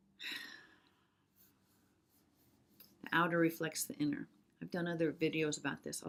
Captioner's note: sighs